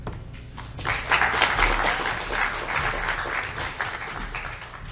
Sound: audience Clapping

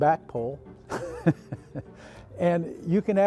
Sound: laughs

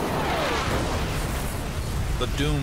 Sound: explosion

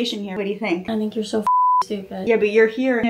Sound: beep

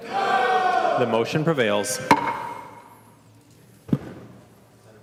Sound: chorus of ayes

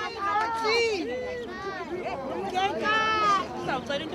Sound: crowd chattering

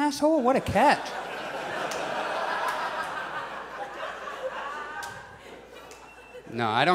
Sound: audience laughs

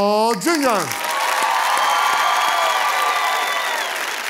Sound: applause

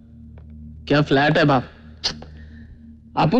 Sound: clicks tongue

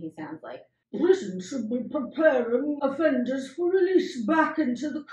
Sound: normal hoot-voice; evil gluttonous Tory voice again

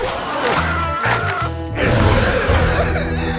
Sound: screaming

